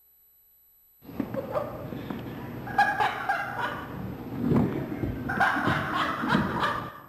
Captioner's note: laughter